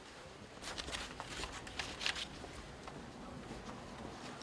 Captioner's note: indistinct chatter